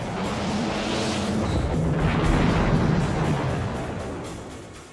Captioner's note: missile rumbles